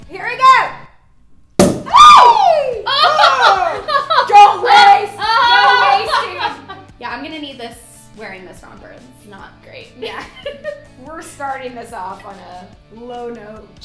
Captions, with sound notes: - Here we go! (bottle pops) (squealing) Oh, don't waste, no wasting! (laughter) - Yeah, I'm gonna need this, wearing this romper. It's not great. - Yeah, we're starting this off on a low note.